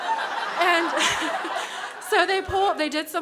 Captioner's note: crowd laughs; chuckles